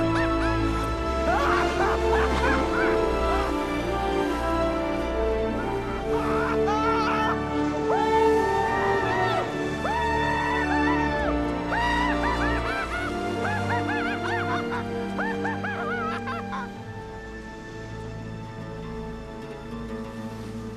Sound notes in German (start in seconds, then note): 8.0 Keuchen, Lachen; 13.0 Hysterisches Lachen